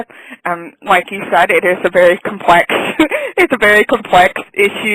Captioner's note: laughs